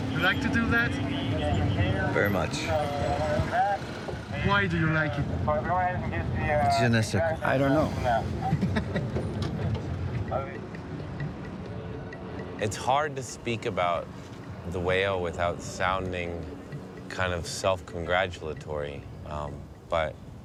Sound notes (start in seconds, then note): 8.3 laughing